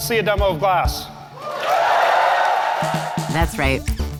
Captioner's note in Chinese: 觀眾的歡呼聲